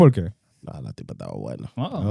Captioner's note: speaking In Foreign Language